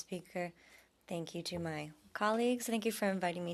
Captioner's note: speaking French